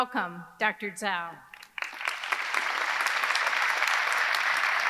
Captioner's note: audience clapping